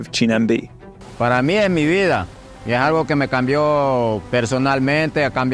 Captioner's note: speaking in Spanish